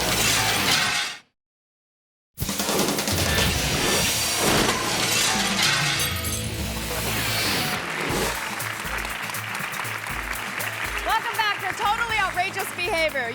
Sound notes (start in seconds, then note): 0.2 glass shattering; 2.3 graphics whooshing; 2.3 upbeat music; 4.2 glass shatters; 7.8 hands clapping